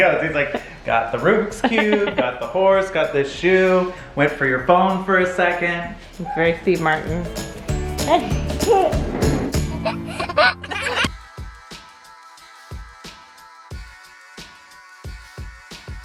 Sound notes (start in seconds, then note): 7.7 playful music playing; 9.9 kids laughing; 11.2 upbeat music playing